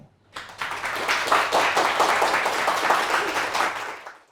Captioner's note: audience applauds